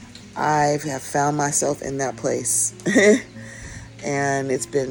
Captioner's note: chuckles